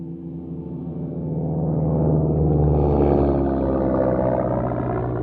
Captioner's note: plane engine roaring